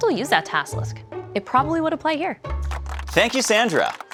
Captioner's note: audience applauding